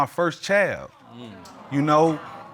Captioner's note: crowd exclaims